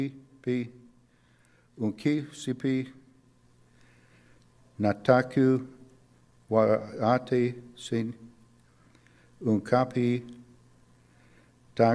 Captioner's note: speaking Lakota language